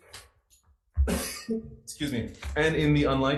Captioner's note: coughs